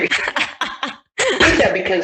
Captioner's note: both laugh